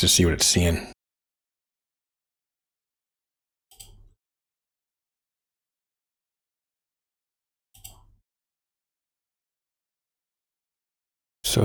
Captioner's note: blank Audio